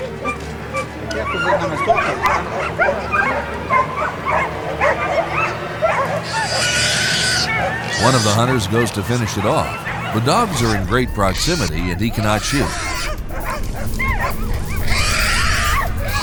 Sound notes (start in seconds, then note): 0.7 dogs barking; 0.7 tense music; 12.1 boar squealing; 12.9 dogs barking